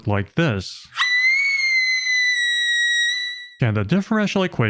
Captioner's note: scream